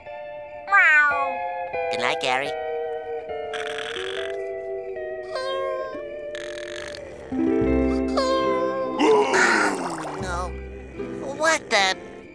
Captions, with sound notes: [meowing] Good night, Gary. [snoring] Oh! Oh. What the?